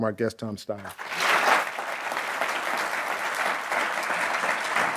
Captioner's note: applause